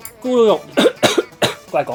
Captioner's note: cough